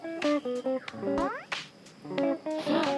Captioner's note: munching